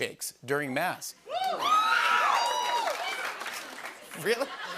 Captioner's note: woman exclaims; applause